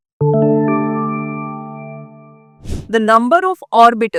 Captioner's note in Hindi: नाक से की जाने वाली आवाज़